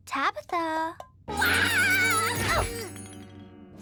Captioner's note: Tabitha screams